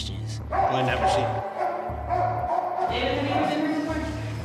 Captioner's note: dog barking